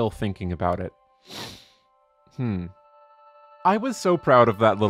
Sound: inhale

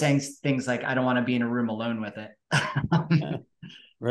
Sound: laughs

